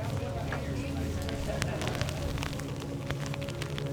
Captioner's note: rain pattering